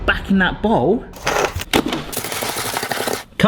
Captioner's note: clingfilm rattling